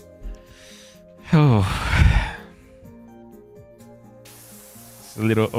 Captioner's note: sighs